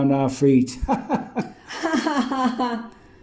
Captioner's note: laughs